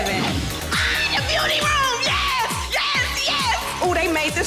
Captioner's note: scream